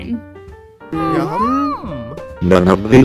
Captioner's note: everyone mutters in agreement